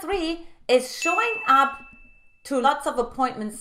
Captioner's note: bell dings